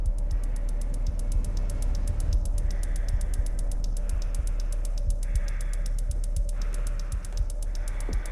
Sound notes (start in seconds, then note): 2.4 muffled heavy breathing